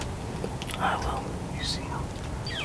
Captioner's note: whispering